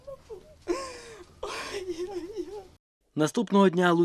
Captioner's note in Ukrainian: плаче